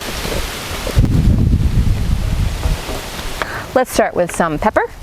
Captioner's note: wind whooshing